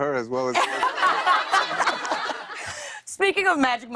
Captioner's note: laughter